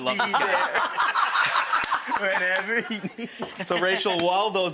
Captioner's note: everyone laughs